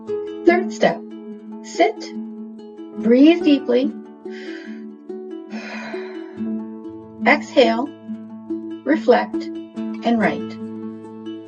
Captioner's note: sound of exhaling breath